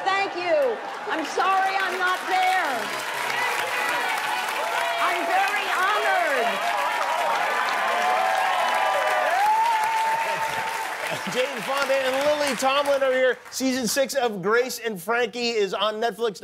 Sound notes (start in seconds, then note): 9.8 cheers and applause